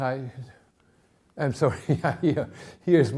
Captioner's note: chuckling